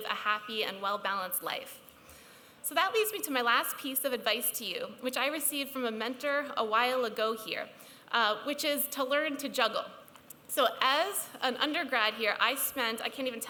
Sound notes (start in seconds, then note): none